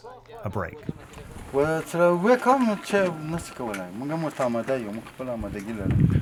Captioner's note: speaking in a foreign language